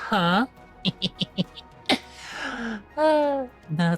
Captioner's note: laughing